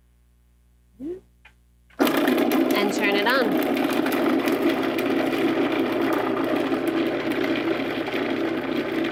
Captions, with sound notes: And turn it on. (food processor grinding)